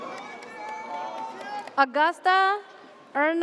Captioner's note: audience cheers